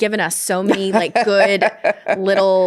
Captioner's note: laughs